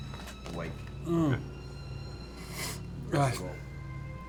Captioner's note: groans